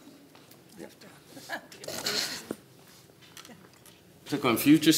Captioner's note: laughs